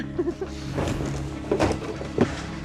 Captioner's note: laughs